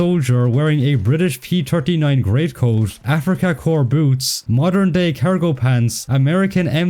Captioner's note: German